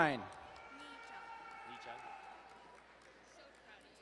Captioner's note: distant cheering